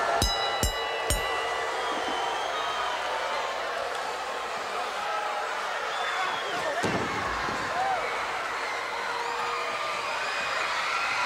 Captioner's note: crowd cheering